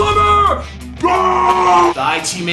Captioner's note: yells